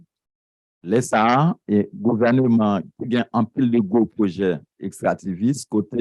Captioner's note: speaking a foreign language